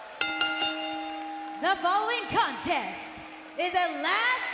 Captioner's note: cheers and applause; bell ringing